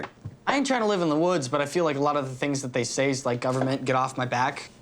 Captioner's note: none